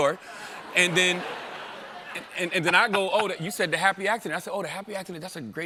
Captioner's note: laughter